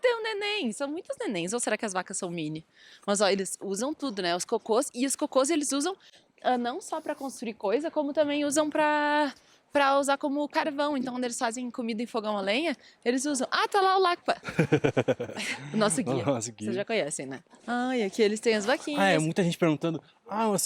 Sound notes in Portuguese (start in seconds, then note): 14.4 risadas